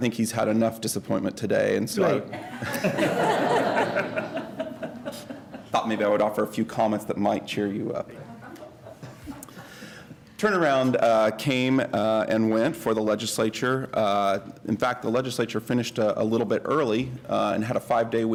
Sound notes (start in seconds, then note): 2.3 laughter